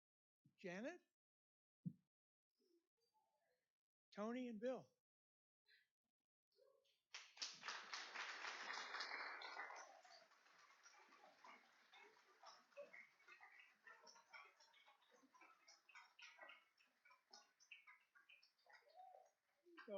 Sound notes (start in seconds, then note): 16.0 applauding